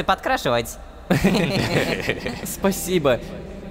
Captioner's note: laughter